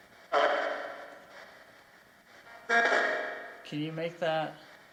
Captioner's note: ghostly male voice echoes